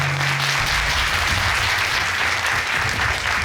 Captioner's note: audience applauds